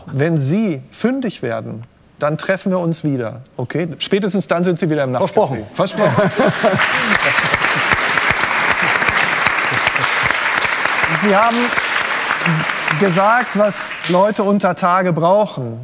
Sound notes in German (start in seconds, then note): 5.9 lacht; 9.6 Applaus